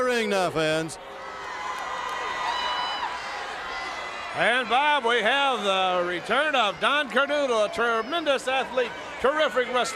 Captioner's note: crowd cheering